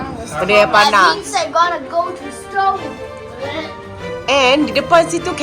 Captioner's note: speaking German